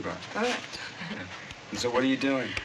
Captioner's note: both chuckling